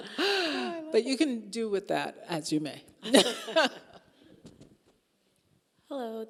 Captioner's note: both laughing; laughing